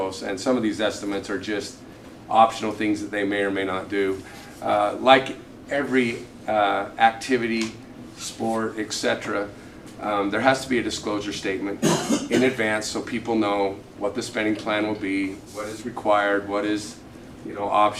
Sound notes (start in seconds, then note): 11.8 cough; 11.8 clears throat